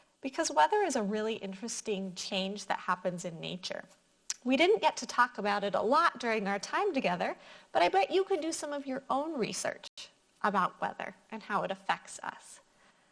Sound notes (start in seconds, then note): none